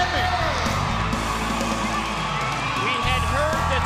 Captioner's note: crowd cheering